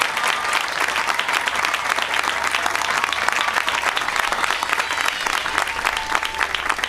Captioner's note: applause